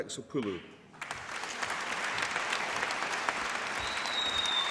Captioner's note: applause